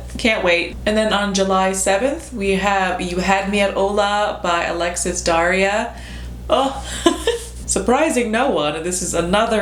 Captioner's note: laughs